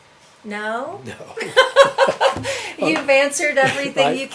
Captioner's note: laughs